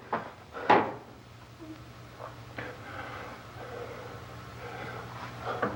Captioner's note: Barbra whimpering